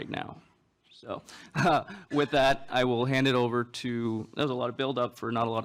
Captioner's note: laughs